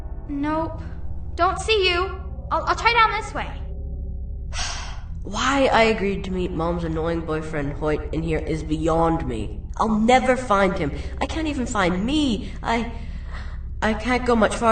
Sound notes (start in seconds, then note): 4.5 sigh